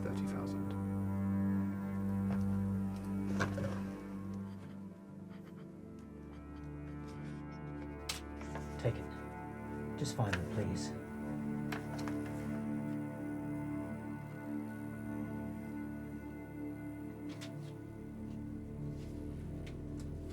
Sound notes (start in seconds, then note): 2.5 soft melodic music; 9.5 paper tearing; 13.5 soft melodic music